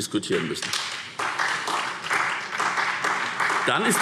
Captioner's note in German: Beifall SPD